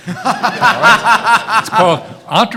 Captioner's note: everyone laughing